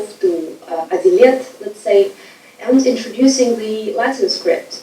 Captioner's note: speaking foreign language